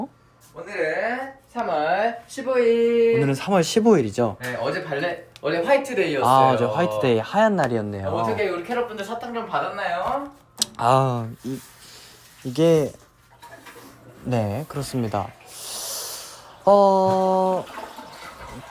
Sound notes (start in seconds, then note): 11.2 hand-washing sound; 13.1 the sound of the toilet going down and Embarrassing